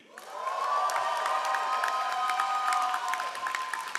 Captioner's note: all applauding